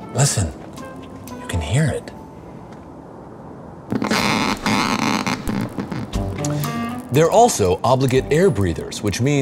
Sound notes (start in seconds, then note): 3.8 electric static sound